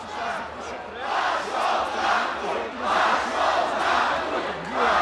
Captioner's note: crowd; crowd, much louder